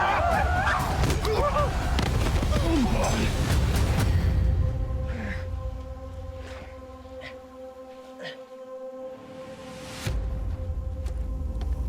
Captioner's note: screaming